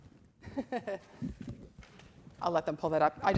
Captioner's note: laughs